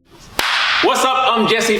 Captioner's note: hands clapping